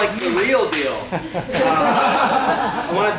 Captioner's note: laughter